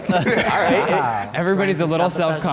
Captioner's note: group laughs